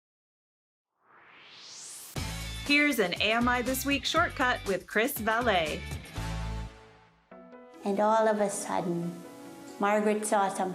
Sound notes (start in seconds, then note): 1.0 swoosh